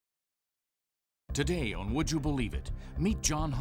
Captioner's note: voiceover